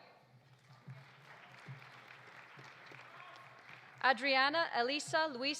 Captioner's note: audience applauding